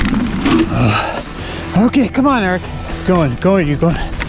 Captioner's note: grunts